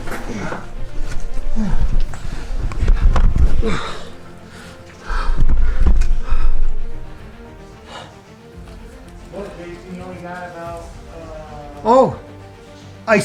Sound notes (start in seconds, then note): 0.1 dramatic music; 5.2 panting